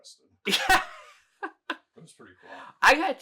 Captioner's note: laughing